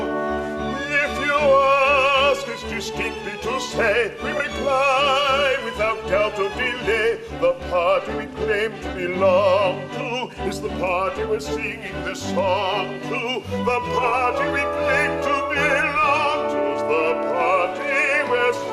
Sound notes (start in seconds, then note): none